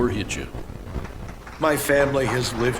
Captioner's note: town hall applauds in agreement